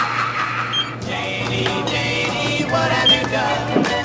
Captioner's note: beeping